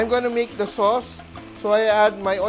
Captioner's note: sizzle